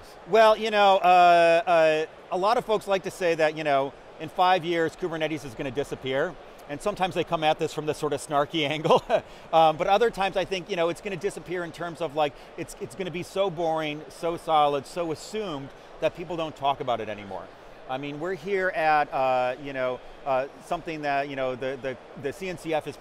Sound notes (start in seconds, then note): 8.7 chuckles